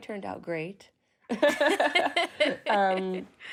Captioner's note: both laughing